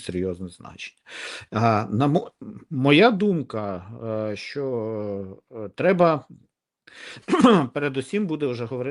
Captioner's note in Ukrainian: сопіння; прочищення горла